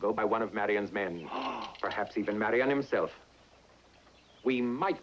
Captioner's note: gasps